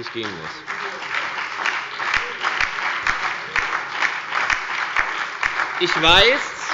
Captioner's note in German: Beifall bei der FDP, der SPD und der LINKEN